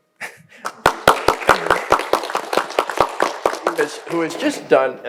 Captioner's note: audience applauding